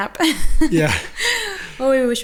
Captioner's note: laughing